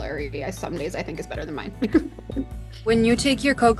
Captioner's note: laughs